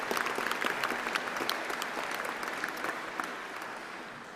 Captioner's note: applause